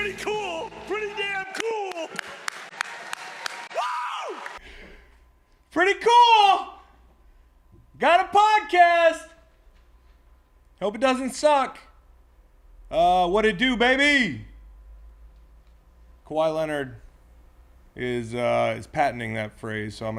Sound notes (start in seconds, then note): 2.1 applause; 2.1 cheers